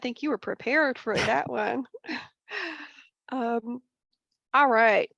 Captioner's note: chuckle